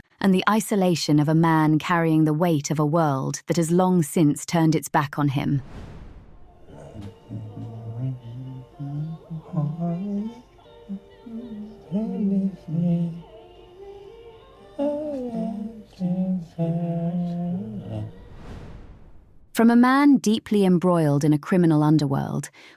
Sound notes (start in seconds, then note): 6.9 humming tune